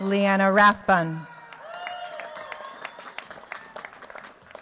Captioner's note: cheers, applause